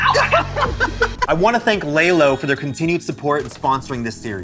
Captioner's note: laughs